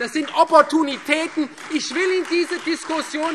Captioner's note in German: Beifall Freie Demokraten